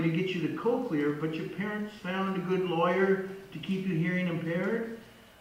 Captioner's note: voice on phone